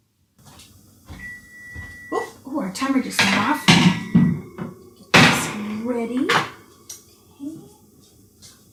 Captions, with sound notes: [beeps, long beep] Ooop, oh our timer just went off. I'll get this ready.